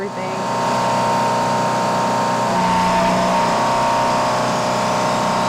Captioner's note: engine roaring